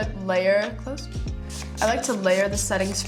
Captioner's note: spraying product